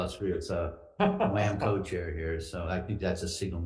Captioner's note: laughs